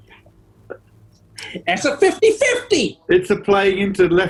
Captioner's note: gangster voice